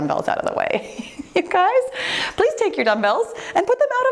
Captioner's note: chuckling